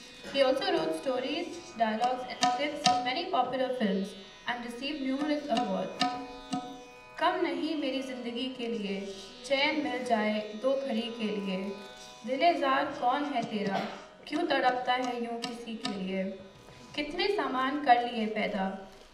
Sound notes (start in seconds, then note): 5.7 non-english speech